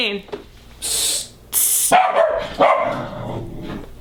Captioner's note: Ichi barks